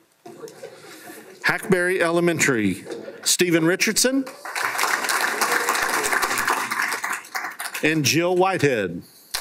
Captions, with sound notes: - Hackberry Elementary. Stephen Richardson. (applause) And Jill Whitehead.